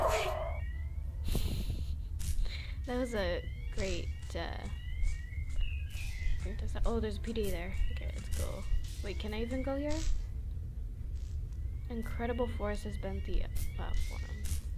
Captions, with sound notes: [laughs] that was a great uh oh there's a PDA there ok let's go wait can i even go here? Incredible force has bent the platform